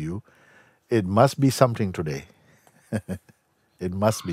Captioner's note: lacht